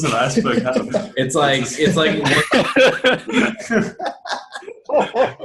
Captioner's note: everyone laughing